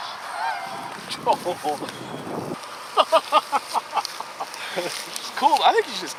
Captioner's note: chuckles